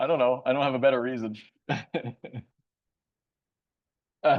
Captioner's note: laughs